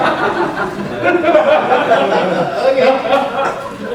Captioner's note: audience laughing